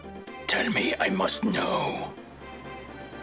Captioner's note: Dr. Claw-esque voice